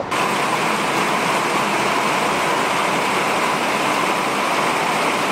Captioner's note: rain